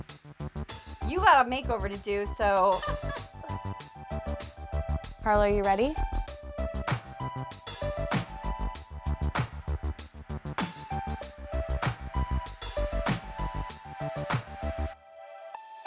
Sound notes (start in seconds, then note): 2.7 laughs; 3.2 upbeat music; 6.4 upbeat music